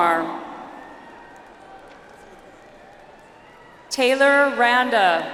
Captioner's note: audience applauds